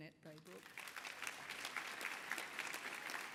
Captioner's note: applause